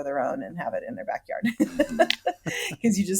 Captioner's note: laughs